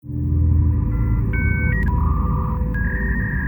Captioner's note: electronic buzzing